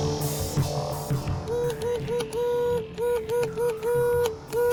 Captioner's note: beeps